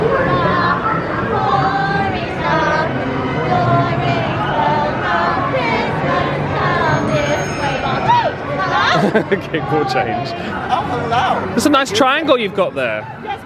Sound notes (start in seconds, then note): 0.1 residents singing; 6.9 triangle ringing; 8.8 laughs